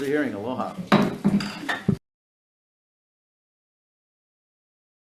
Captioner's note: gavel knocking